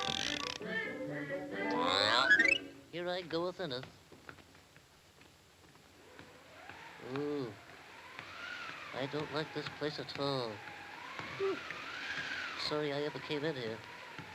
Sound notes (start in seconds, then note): 0.0 playful music continues; 6.3 wind whistling